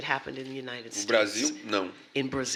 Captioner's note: speaking portuguese